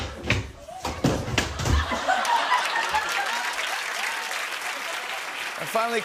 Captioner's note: laughter and applause